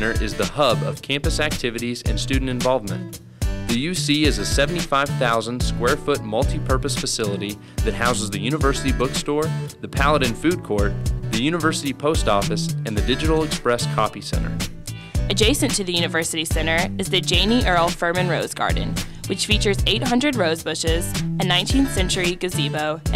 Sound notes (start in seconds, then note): 15.1 voiceover